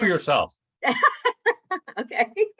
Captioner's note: laughter